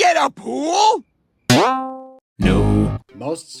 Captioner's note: boing